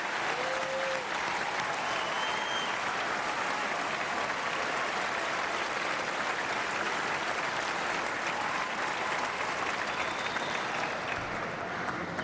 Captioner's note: cheering and applause